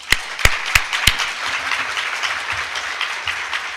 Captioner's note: applause